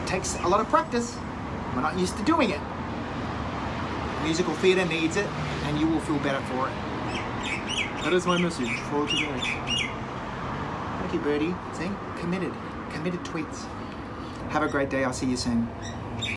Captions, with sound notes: It takes a lot of practice and we're not used to doing it. Musical theater needs it and you will feel better through it. That is my message for today. (bird chirping) Thank you birdie. See committed, committed tweets. Have a great day, I'll see you soon.